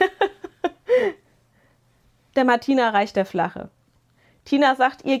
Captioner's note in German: gelächter